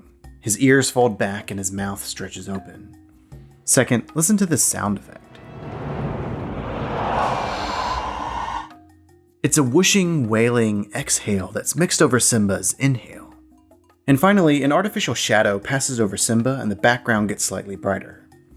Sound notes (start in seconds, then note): 5.3 wailing Sound Effect